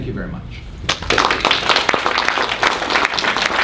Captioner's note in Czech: potlesk